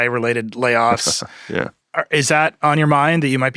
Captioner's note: laughs